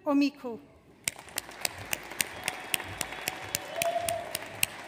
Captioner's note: audience applauds